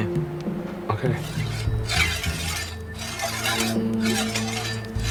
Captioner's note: machete scraping